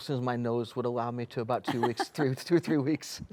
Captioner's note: laughs